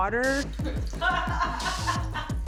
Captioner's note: laughing